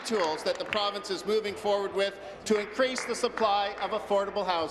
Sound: applause

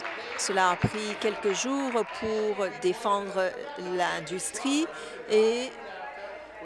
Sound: some applause

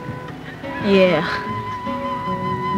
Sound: speaks Diné, Navajo language; sarcasm; solemn music

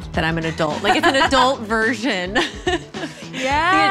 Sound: laughs

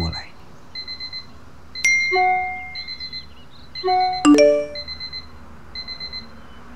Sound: notification

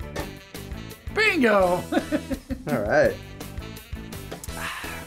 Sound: upbeat music; laughs

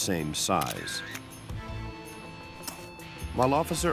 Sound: camera flashing

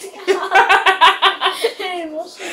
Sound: both start laughing loudly

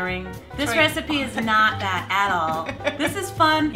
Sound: laughs

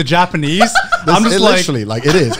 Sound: laughing

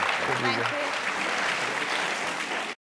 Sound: applause

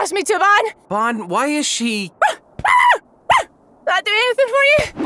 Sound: Jericho barking

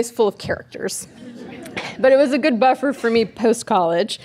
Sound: audience laughing

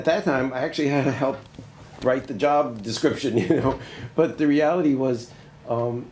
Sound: laughs

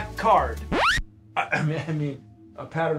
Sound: record screeching sound

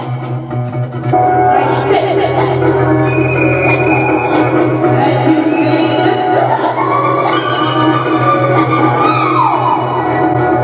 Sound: sh-sh-shhh!

